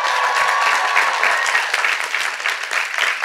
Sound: cheers and applause

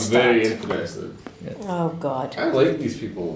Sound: groans

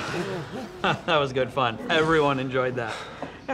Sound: laughs

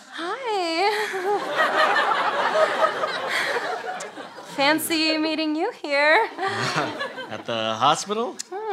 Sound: coy laugh

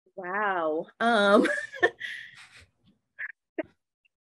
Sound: laughs

